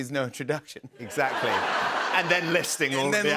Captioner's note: laughter